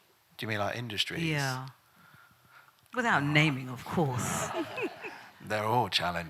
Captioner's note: laughs